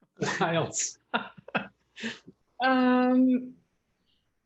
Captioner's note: laughing